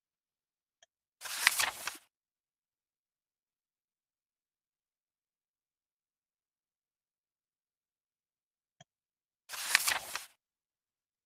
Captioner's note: E-book turning pages